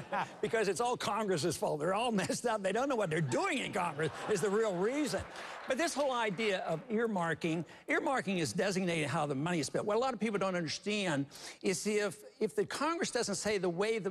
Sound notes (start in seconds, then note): 4.0 applause